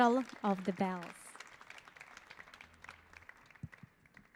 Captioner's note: audience applauding